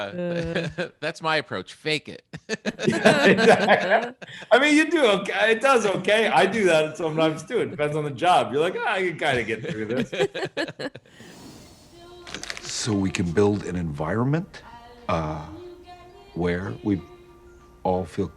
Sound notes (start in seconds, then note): 0.1 hosts chuckling; 2.3 all laughing; 9.3 chuckling; 11.2 transition whooshes; 12.2 note crumbling